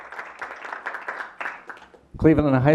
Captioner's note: applause